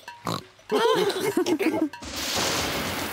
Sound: oinks; all laughing; thunder rumbles

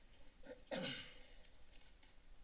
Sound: clears throat

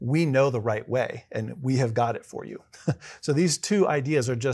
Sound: laugh

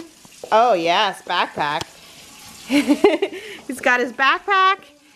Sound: laughs

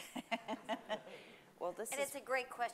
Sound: laughing

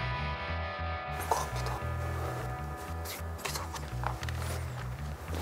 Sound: whisper

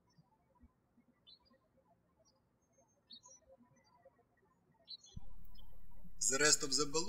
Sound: birds chirping

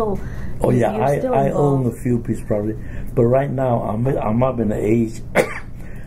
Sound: coughs

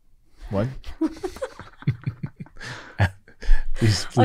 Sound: all laughing

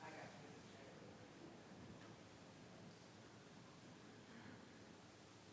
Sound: faintly speaking

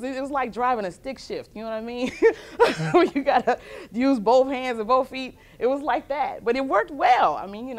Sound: laughter

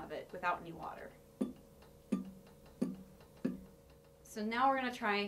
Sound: hits

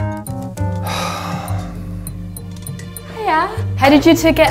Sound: sigh

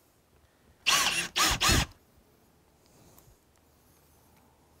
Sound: screw-gun whirs

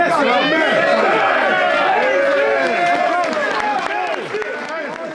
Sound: team cheering

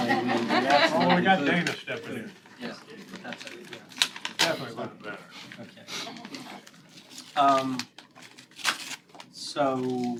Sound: laughter

